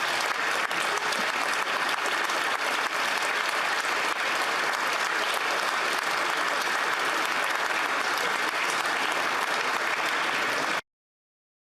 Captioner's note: applause